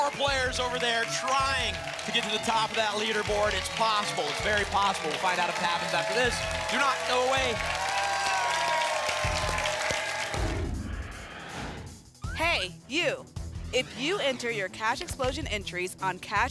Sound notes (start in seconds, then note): 8.0 applause and cheering cont; 10.4 whoosh